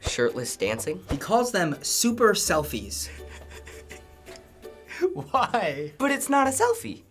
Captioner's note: laughs